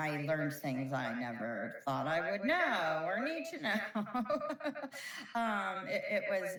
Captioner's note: laughs